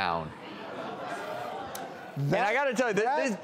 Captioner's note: audience murmurs